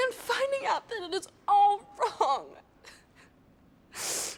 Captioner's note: sobs